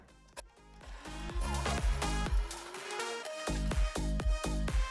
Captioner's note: coffee grinding